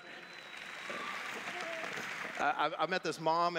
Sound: clapping

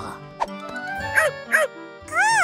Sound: barks

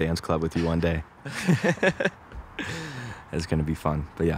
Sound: both laugh

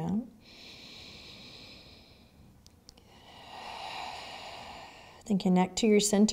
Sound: heavy breathing

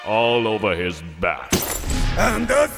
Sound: glass breaks

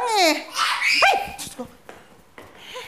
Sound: Anne screams

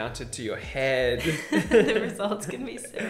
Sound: both laughing

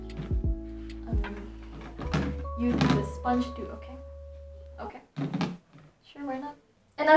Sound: tupperware clatters

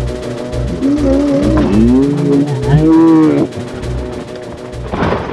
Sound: slow motion yelling

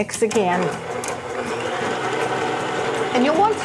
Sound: machine rumbling

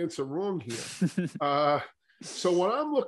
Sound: laughing

